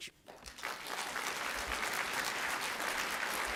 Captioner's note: applause